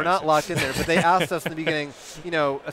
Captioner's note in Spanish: riéndose